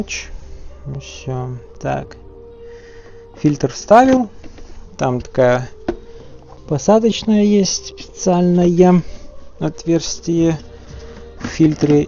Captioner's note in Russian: тяжело вздыхает